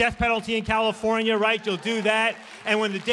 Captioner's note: applause